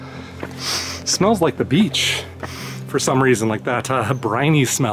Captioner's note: inhales